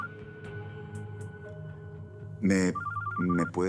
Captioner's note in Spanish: Suena el celular